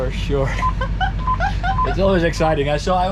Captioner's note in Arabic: يضحك